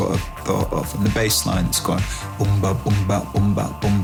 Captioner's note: beatboxing